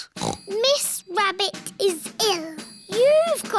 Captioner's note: snorts